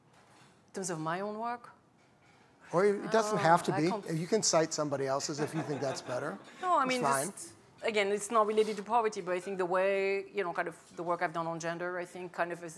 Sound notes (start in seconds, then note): 5.3 laughter